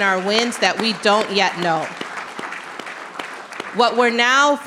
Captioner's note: audience clapping